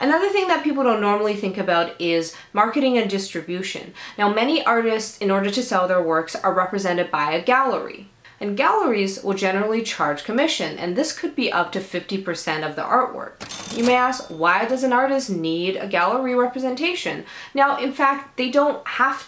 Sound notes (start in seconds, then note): 13.4 kaching Sound